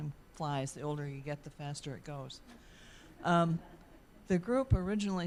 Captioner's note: audience laughing